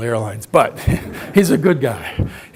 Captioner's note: audience laughs; laughs